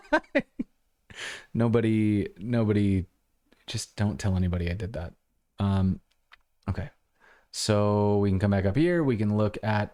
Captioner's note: laughter